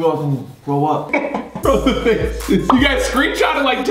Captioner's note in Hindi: हंसी